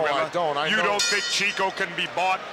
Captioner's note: bell rings